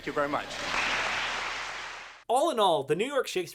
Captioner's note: applause